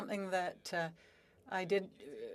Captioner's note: speaking French